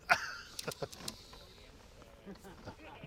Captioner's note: laughing